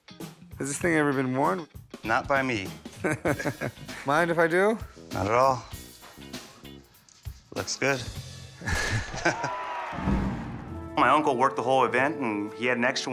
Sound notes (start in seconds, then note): 8.9 crowd cheers; 10.0 starting gun fires